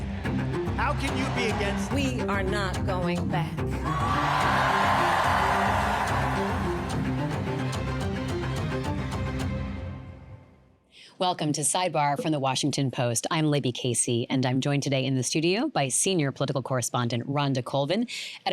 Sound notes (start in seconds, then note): 3.8 cheers and applause